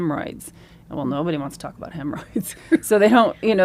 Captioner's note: laughs